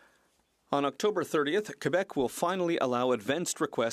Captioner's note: speaking French